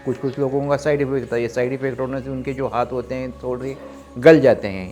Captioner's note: speaking foreign language